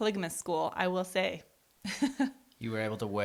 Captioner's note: laughs